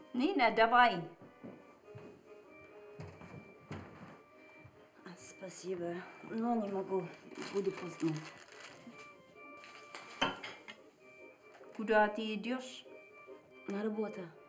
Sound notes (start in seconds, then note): 0.2 speaking in a foreign language; 10.4 cutlery rattling